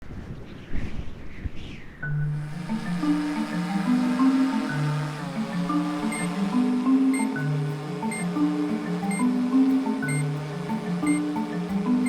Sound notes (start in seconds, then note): 0.1 wind whistling; 2.0 instrumental music; 3.9 drone blades buzzing; 5.4 slow beeping